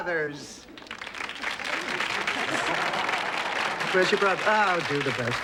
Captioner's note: audience applause